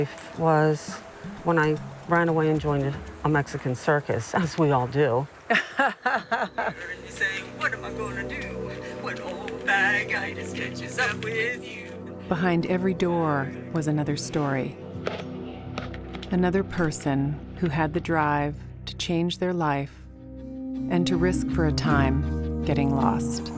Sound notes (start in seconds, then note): 5.4 laughs